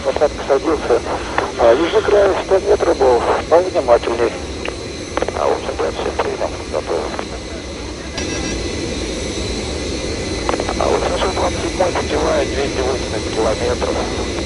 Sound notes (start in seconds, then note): 8.1 autopilot disconnection sound